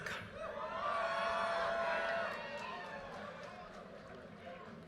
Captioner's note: audience cheers and applause